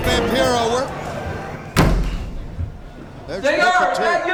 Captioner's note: door bangs